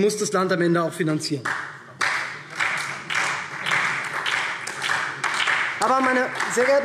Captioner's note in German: Beifall SPD